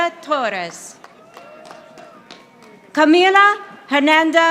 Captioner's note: audience applauding